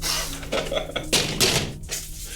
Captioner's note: laughing